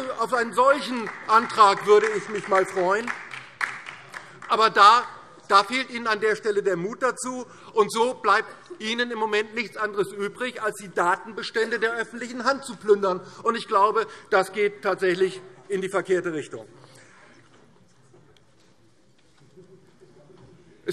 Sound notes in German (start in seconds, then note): 3.1 Beifall DIE LINKE und vereinzelt SPD